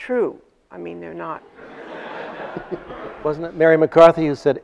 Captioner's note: audience laughs